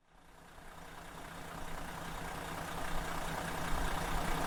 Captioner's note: engine rumbling